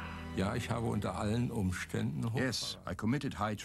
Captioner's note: speaking in German